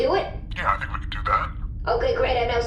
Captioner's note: distorted voice